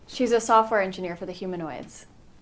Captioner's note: none